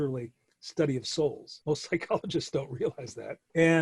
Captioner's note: chuckling